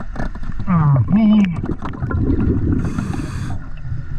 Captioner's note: grunting